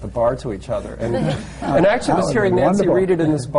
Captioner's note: laughter